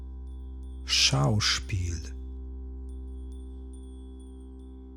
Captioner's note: german